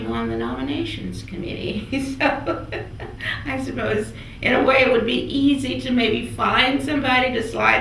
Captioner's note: laughs